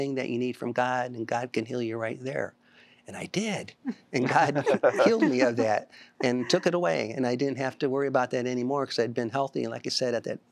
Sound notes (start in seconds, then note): 4.2 laughter